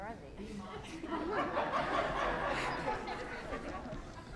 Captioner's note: laughter